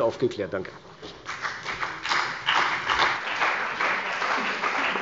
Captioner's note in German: Beifall bei der CDU und dem BÜNDNIS 90/DIE GRÜNEN